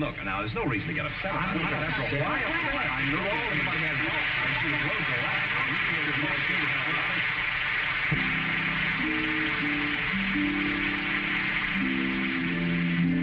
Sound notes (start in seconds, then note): 4.3 arguing; 4.9 audience applauding; 10.0 tranquil harp music